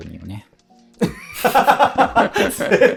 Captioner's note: laughing